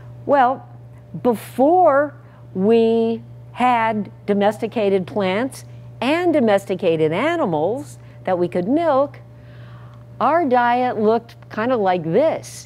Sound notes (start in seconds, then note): none